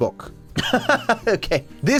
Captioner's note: laughs